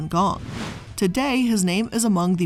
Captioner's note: air whooshing